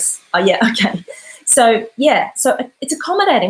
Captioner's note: laughs